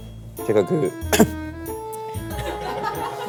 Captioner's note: chokes up